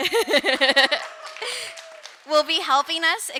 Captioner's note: laughing; audience cheer and applaud